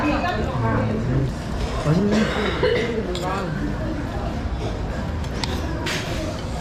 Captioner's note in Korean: 여기저기 들리는 기침 소리